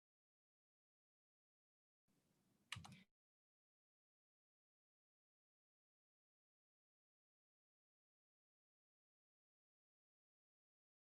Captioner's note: audio cuts out briefly